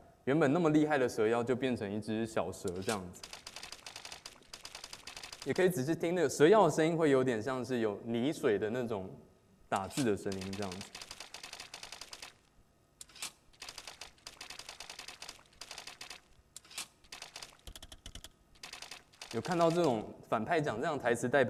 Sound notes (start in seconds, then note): 2.7 typing sound